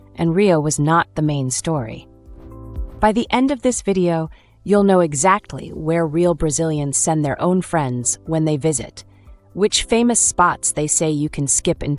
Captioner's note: confident